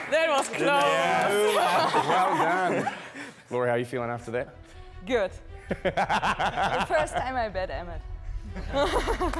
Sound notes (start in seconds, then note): 5.7 laughing